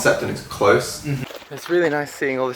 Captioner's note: noise of agreement